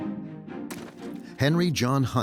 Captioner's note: ketchup splashing